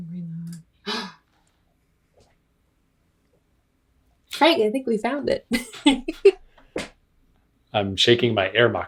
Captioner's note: gasp